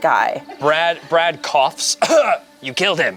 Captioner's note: coughs